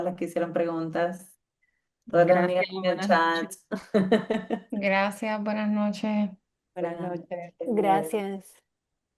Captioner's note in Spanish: risas